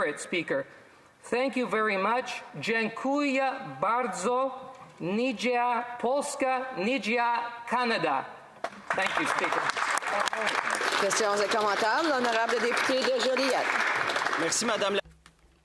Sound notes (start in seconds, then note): 6.6 speaking alternate language